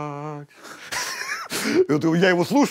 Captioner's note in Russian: оба смеются